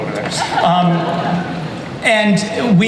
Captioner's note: audience laughs